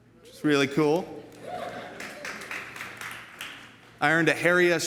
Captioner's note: audience applauds